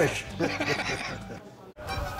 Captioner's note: laugh